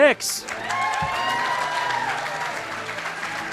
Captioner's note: cheering, applause